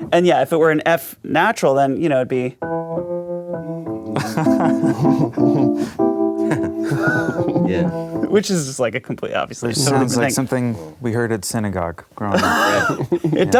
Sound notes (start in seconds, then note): 2.6 keyboard music; 4.5 laughing